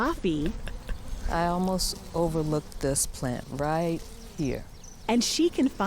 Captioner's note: laughs